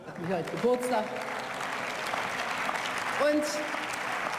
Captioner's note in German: Beifall